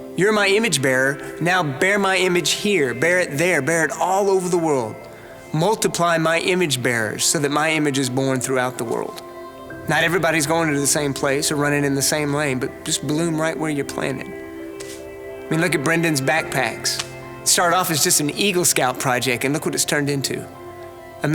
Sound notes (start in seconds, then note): none